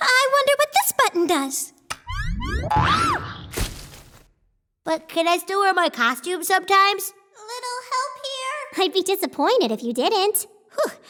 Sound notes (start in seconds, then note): 2.0 click; 2.7 boing